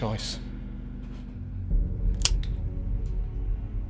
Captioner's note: gun cocks